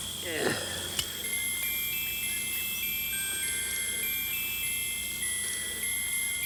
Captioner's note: pocket watch chimes melodically